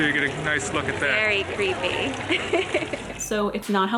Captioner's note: laughs